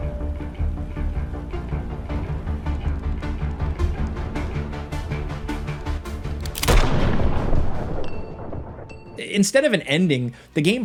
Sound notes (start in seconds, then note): 0.6 tense music; 6.4 gun firing